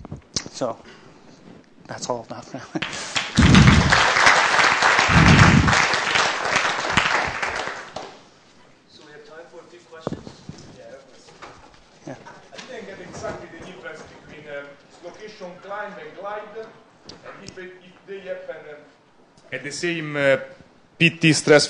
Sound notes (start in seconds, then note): 2.8 applause